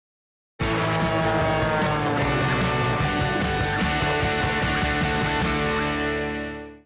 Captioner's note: airplane engine; upbeat guitar